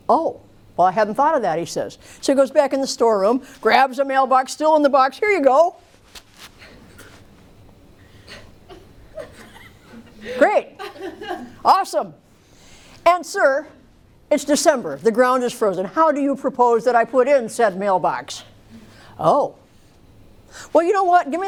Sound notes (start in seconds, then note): 8.1 laughter